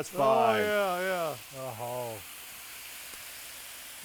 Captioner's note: chicken sizzles